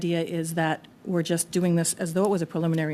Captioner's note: speaking French